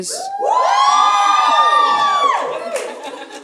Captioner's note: audience cheering